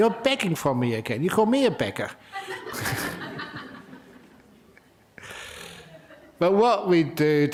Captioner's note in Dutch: lachen